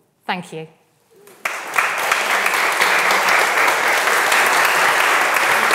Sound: audience applauding

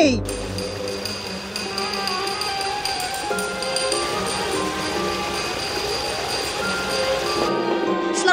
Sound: tapping

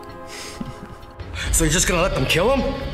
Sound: laughs

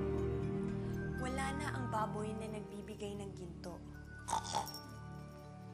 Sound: snorts

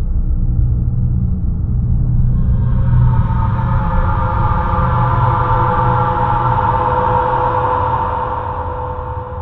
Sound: screams

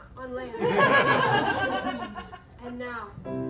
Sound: laughter

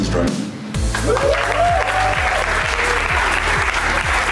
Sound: cheering

